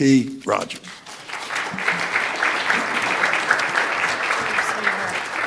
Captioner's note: audience applauding